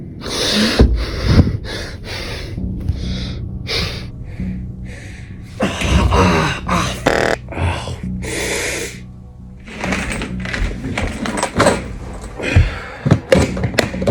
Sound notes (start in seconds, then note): 0.8 heavy breathing; 2.6 ominous music; 5.5 growls; 5.9 winces; 9.4 ammo rattling